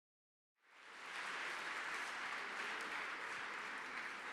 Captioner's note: applause